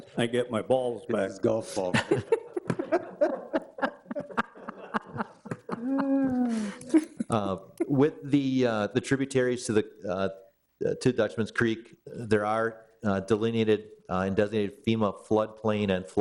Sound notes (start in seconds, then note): 1.9 all laugh